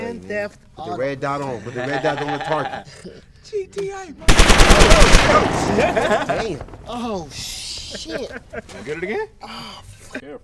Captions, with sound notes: - Grand Theft Auto. - Red dot on. Put the red dot on the target. - GTA motherfucker! (gun firing) - Oh shit. - Wanna get it again?